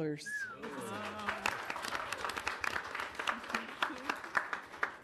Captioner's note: audience applauding